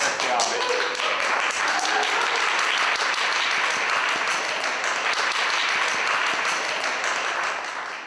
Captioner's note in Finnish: Yleisö taputtaa villisti